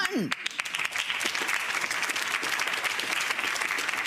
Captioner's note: audience applauds